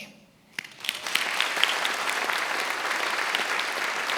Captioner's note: attendees applauding